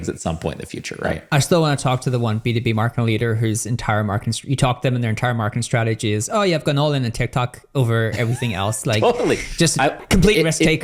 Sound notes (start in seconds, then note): 8.1 laughs